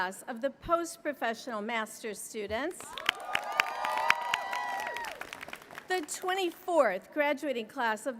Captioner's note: applause